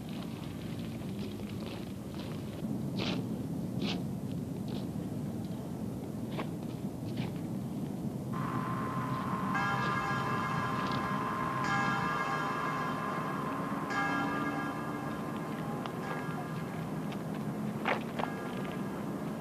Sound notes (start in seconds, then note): 2.1 footsteps on gravel; 8.4 radio static; 10.4 church bells over radio; 17.7 footsteps on gravel